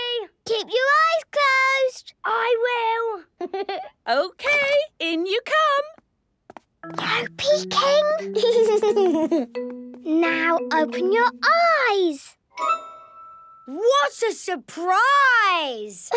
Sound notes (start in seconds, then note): 3.4 Danny laughing; 6.5 whispering; 8.2 Danny giggling